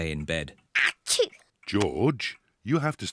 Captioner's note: sneezes